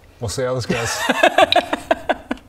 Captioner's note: laugh of little faith